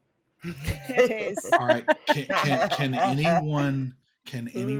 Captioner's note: all laughing